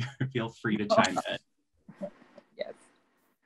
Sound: laughters

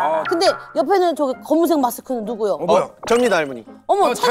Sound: none

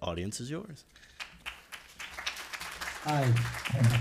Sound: applause

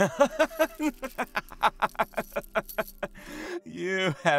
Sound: laughs

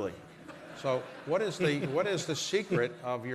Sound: laughter

